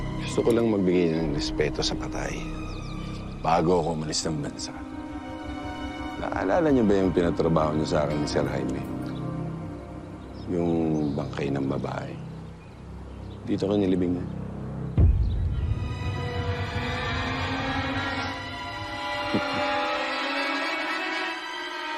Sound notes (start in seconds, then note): 14.7 stirring music playing; 19.3 chuckles